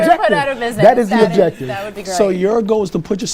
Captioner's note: laughs